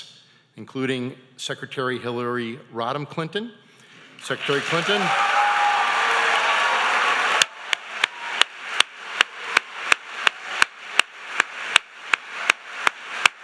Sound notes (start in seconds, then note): 5.4 audience applauding